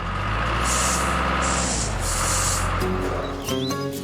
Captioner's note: engine Running